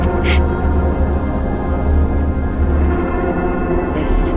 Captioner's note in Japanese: すすり泣き